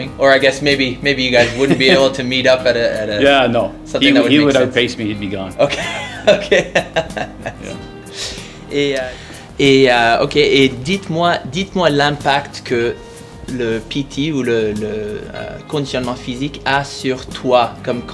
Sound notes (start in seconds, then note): 5.6 laughing